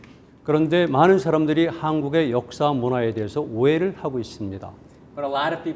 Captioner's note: speaking in Korean